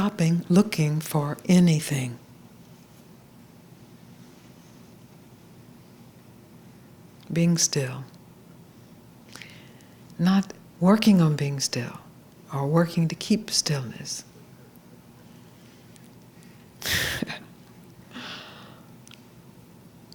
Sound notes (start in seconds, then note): 15.0 soft laugh